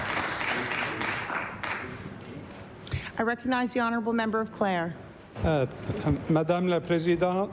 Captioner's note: applause